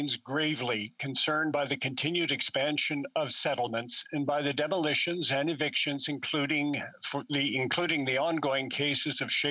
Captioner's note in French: voix de l'interprète